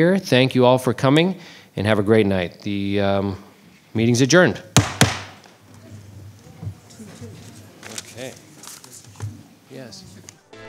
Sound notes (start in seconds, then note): 4.7 gavel bangs